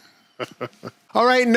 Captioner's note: laughs